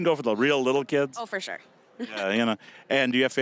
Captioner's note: laughing